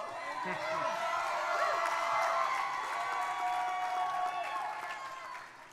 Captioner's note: crowd cheering